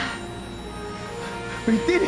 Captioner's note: Jana sighs